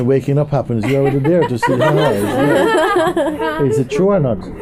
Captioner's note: laughter